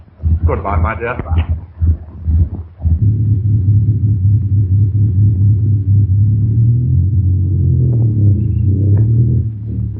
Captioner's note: distant rumbling